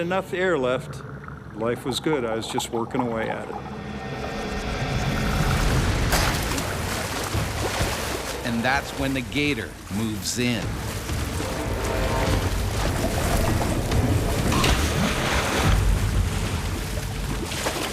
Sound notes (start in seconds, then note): 9.2 voiceover